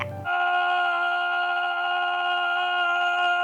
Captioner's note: screaming